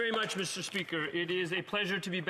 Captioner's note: applause